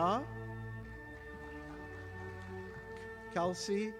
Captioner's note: audience applauding